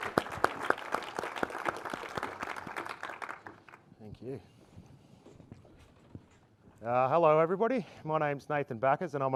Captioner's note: applause